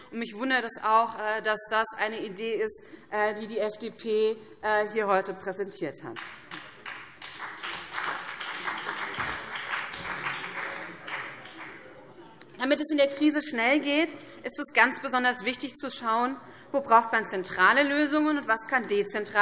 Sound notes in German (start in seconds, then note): 6.1 Beifall BÜNDNIS 90/DIE GRÜNEN und CDU